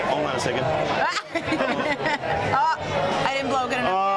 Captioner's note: laughs